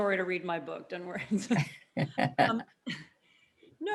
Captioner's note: laughs